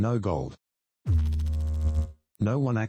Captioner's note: electrical noise